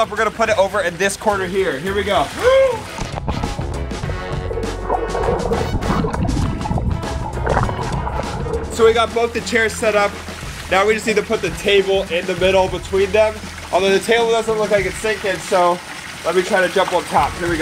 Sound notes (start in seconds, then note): 3.4 shouting; 4.2 exciting retro music